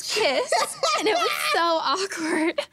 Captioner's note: laughing